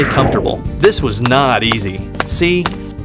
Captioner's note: footsteps